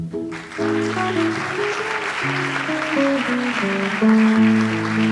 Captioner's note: audience applauds